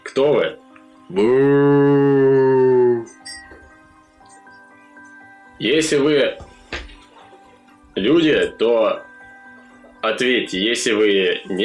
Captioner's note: zombie noises